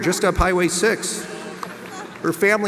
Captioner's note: audience laughs